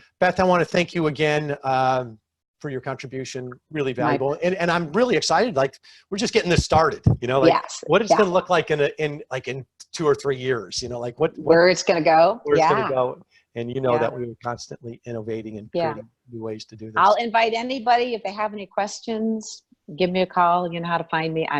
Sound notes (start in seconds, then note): 15.8 speaking faintly